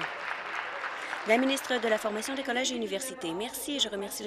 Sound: applause

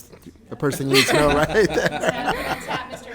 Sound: group laughs

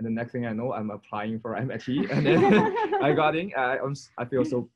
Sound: laughs

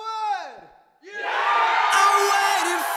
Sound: crowd

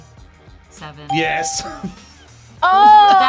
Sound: laughs

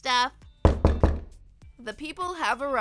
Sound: knocking

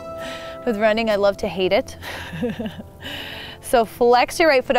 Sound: laughs

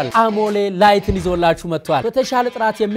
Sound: none

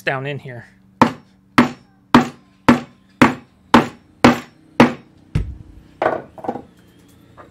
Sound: hammer noise

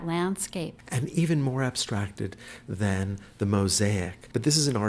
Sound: voiceover

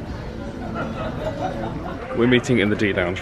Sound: gentle music playing; guests laughing

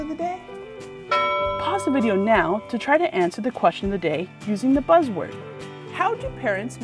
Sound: ding

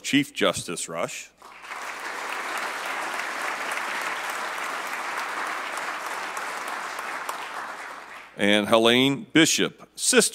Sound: applause

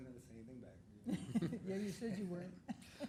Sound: council members laughing

